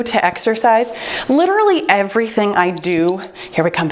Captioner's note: timer beeps